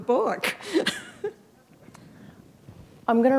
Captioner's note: chuckle